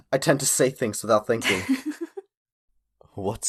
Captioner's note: Calissa chuckles